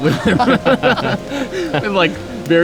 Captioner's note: all laugh